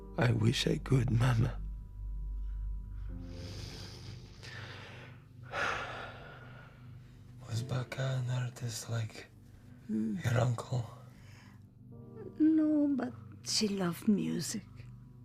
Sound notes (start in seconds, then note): 3.3 Radovan inhales; 5.6 Radovan exhales